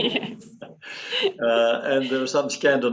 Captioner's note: laughs